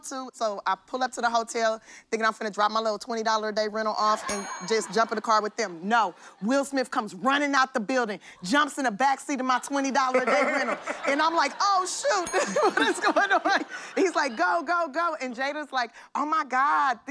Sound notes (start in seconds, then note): 4.6 laughter; 11.0 laughter